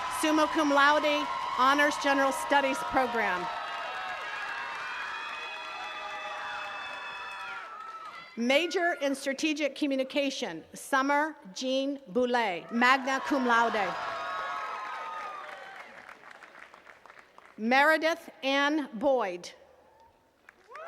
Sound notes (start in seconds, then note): 0.0 attendees cheers and claps; 3.9 attendees cheering and clapping; 12.6 attendees cheering and clapping; 20.3 attendees cheering and clapping